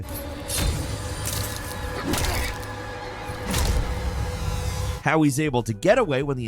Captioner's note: intense music; fist thudding